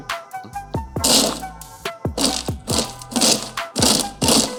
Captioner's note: machine buzzing